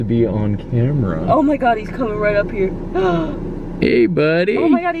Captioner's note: gasp